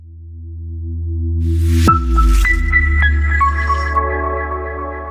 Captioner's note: deep bass echo